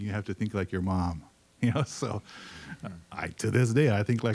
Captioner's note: laughing